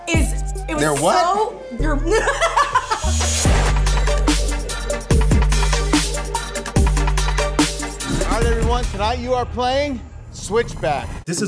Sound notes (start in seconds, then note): 2.0 woman laughs; 3.7 intense music